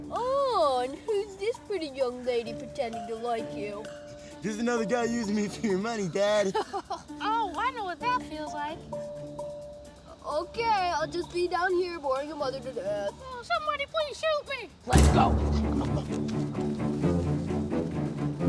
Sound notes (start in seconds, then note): 6.0 Manny laughing; 14.8 dramatic music